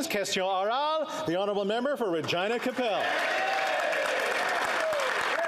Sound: applause

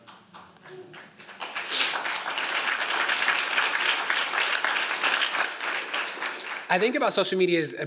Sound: applause

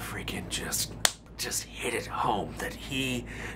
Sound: smacks fists

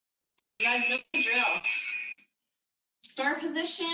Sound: alarm blares

